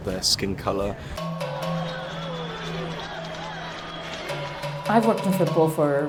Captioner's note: crowd cheering; percussive tones